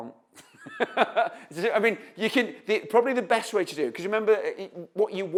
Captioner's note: laughs